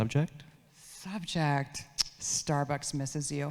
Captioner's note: tongue clicks